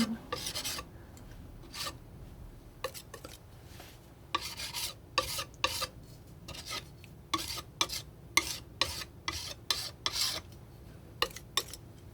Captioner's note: scratching